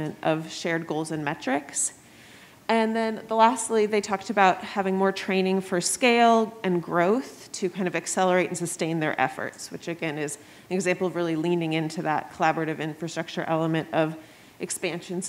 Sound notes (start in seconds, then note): none